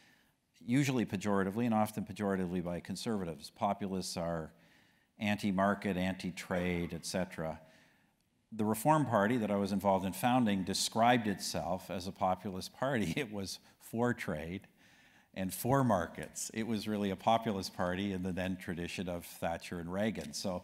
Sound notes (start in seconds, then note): 13.0 laugh